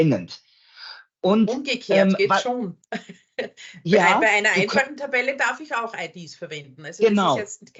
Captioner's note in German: lacht